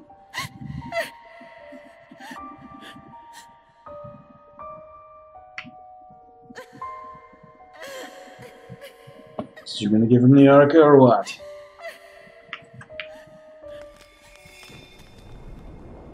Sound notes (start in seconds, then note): 0.2 Anne sobs; 6.4 Anne keeps sobbing; 14.2 sparkle